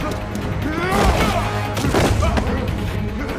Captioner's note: grunting